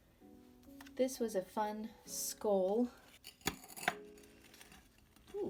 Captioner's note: pot scraping on desk